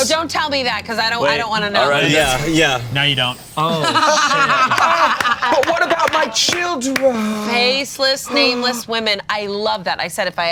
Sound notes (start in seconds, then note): 3.7 Bug laughs